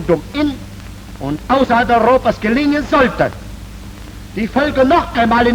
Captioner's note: speaking foreign language